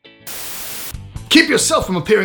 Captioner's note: static television